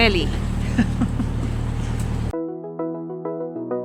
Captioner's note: laughter